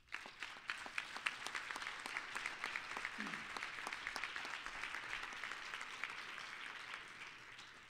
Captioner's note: applause